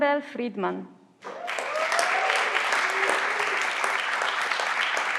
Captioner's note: everyone claps